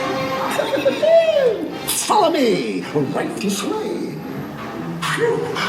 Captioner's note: laughs